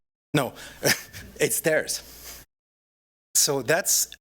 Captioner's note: laughs